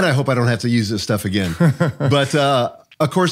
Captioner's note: chuckles